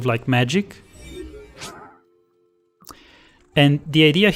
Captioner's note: magical sound effect